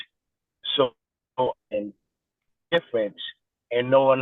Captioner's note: voice is distorted